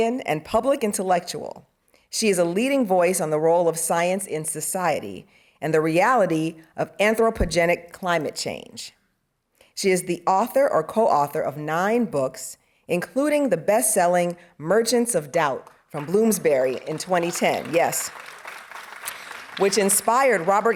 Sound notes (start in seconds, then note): 15.9 audience applauding